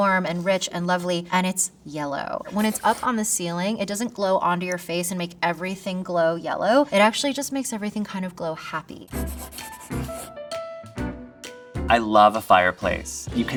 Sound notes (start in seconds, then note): 9.0 upbeat music; 9.1 graphic scratching